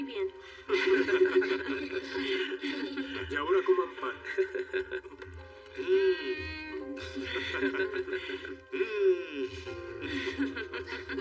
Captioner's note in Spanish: Risas